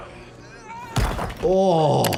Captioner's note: victim grunting; aggressor grunting